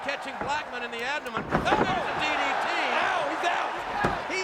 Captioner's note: crowd cheering